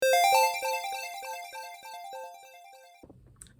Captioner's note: bright game starting sound